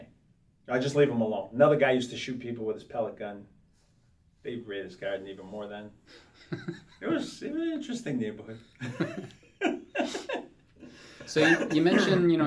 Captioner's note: laughs